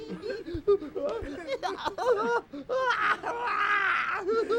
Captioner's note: sobbing noisily